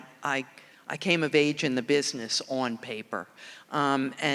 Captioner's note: none